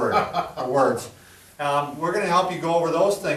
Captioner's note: chuckles